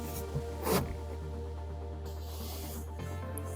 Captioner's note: snort